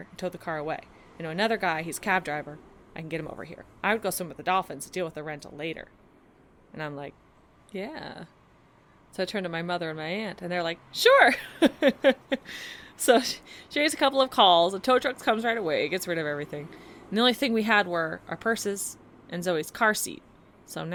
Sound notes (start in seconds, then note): 11.4 storyteller laughs